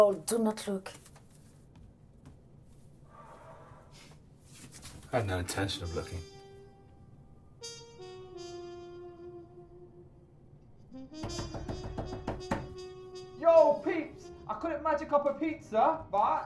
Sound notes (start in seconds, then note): 8.3 sultry music; 11.2 banging